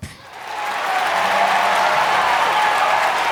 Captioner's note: crowd cheering and clapping